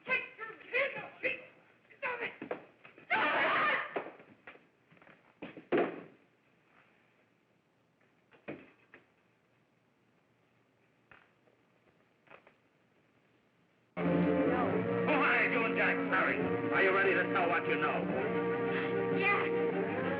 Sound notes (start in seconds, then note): 3.1 Blanche yells